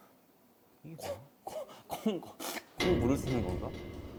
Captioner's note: sniff